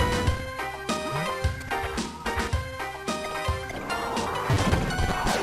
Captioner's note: cough